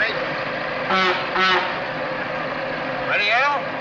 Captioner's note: horn honks